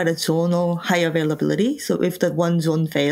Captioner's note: none